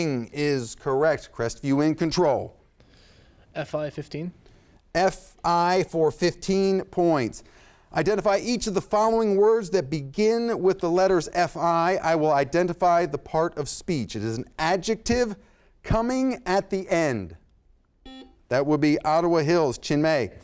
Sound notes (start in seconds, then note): 18.0 buzzer sounds